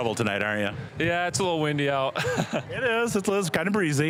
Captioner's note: chuckling